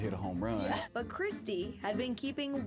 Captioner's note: laughs